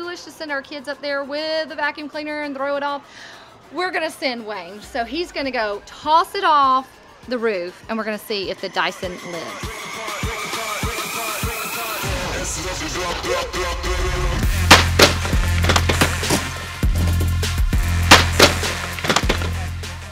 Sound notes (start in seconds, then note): 10.2 techno music; 14.1 vacuum crashes